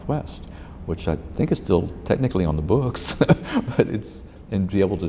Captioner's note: laughs